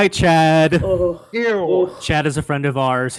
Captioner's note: shivering